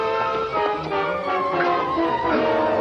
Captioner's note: shouts